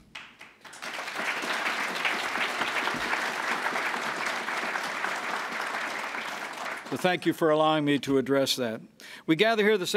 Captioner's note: applause